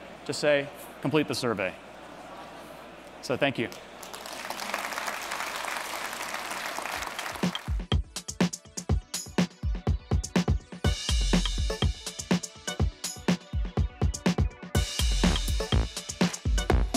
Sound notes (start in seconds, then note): 3.6 applause